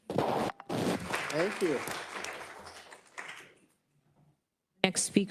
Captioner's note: attendees applauding